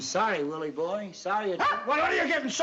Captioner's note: dog barking